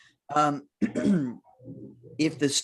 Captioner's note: clears throat